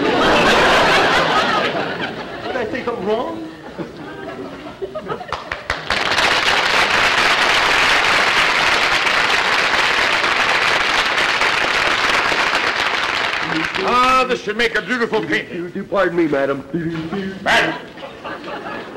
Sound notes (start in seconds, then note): 0.0 audience laughter; 5.2 applause; 16.7 Clem humming noisily